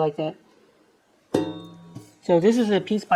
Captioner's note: dong